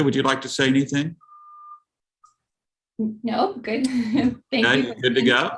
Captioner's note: laughter